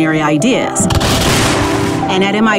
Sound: gunfire

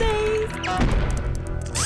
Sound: stomping

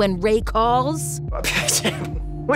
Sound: sputtering

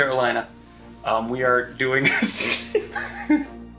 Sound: laughing

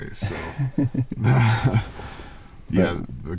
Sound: laughing

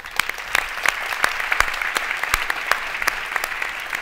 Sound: audience clapping

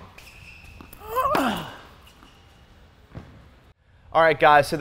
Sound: grunts

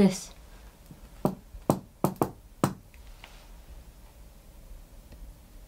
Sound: knocks on ceiling

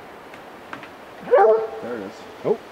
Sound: dogs barking

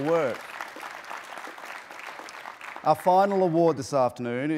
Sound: applause

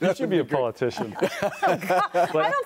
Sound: laughter

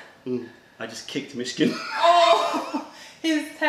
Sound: laughter

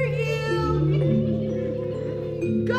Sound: giggles

